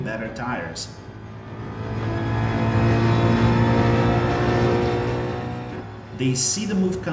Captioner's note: engines revving, tyres grip, racing sounds